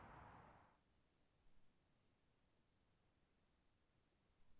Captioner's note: insects chirping